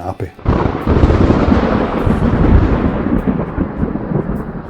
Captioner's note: thunder rumbling